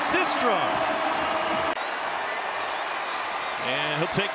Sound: crowd

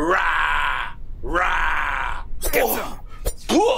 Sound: Papi growls

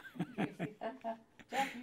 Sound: laughter

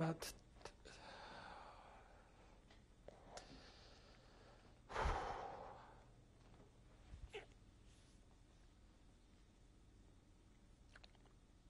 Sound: pauses for 3 seconds; sighs

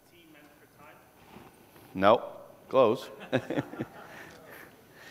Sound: laughter

